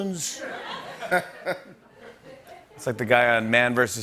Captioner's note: laughter